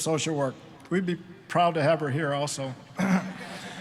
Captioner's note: clearing throat; all laughing